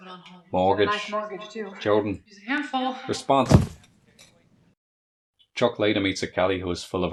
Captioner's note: thud